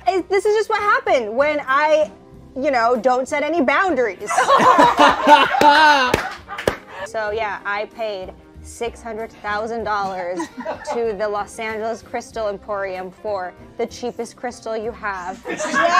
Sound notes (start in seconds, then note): 4.3 everyone laughing